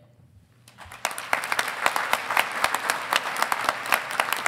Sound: audience applauding

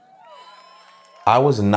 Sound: cheers

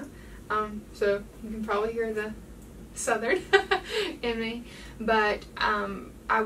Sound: laughs

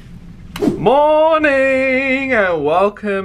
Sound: screen wipe whooshes

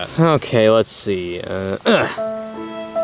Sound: grunts; somber music

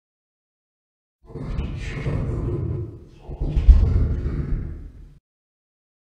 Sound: jigsaw voice

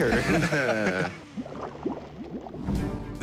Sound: laughter; water bubbling

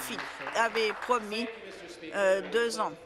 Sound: applause

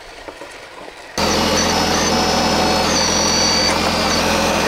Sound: machine whirring

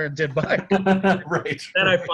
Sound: both laughing

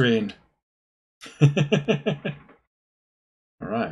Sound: laughs

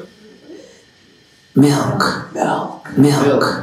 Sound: audience quietly chanting the word Milk

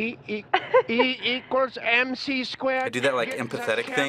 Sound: German accent

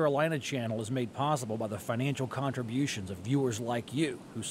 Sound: voiceover

